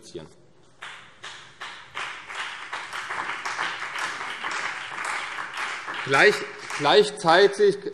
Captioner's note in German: Beifall CDU und BÜNDNIS 90/DIE GRÜNEN